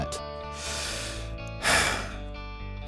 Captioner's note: sigh